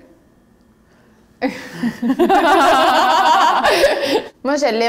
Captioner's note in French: rires